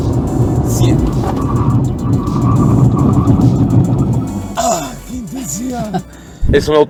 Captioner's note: tyres squealing